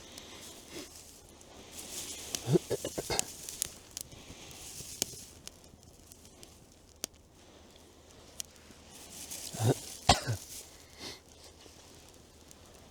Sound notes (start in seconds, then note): 2.4 clears throat; 9.5 cough